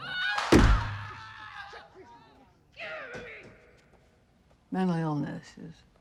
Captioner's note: yelling, screaming